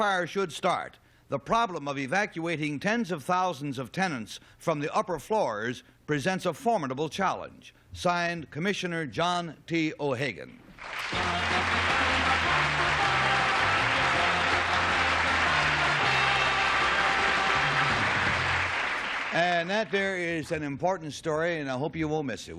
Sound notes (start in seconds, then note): 11.4 applause; 14.3 theme music